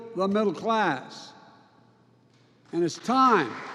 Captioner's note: applause